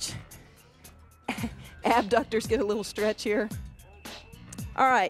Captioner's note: laughs